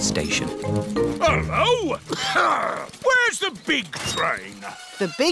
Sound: coughs

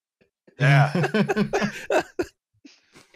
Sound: laughter

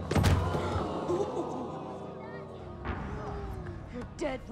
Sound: gasping

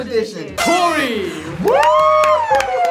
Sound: party horn toots; cheering; audience applauding

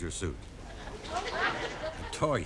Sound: audience laughing

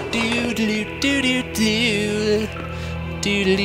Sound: obnoxious humming; more obnoxious humming

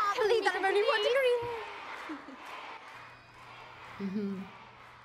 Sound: crowd; chanting; Natalia laughs

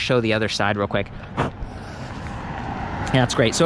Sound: blows into plastic

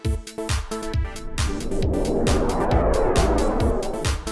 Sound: whooshing

